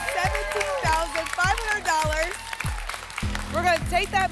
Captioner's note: applause and cheering